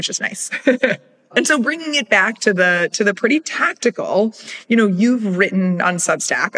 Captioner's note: laugh